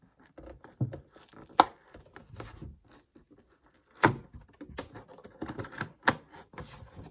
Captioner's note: cardboard separating from plastic